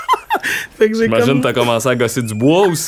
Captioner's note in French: éclat de rire